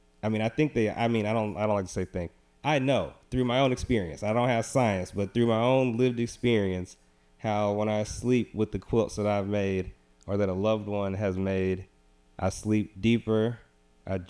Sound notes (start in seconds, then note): none